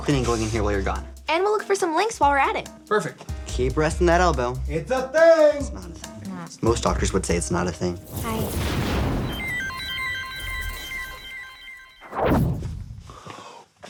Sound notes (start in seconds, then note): 8.0 electricity whirring; 8.6 mysterious music